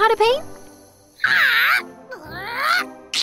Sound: squawking

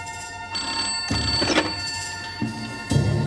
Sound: phone rings

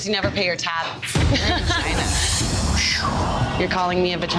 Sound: laughs

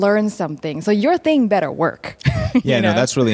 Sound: laughs

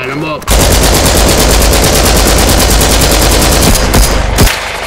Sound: LMG fire; marksmen rifle fire

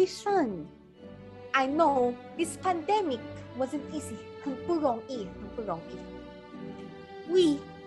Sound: in Chinese: Not easy, not easy

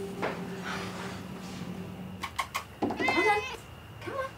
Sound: sighs; cat meowing

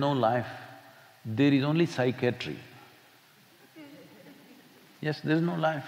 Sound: few laugh

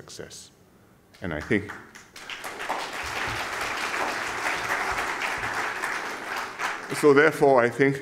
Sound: applause

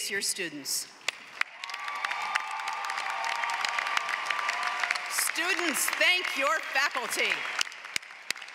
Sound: applause

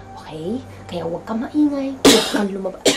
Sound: coughs

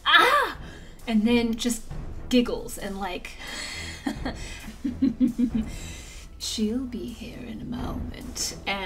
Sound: giggles

